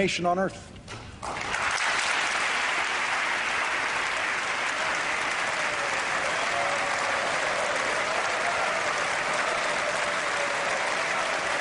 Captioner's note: applause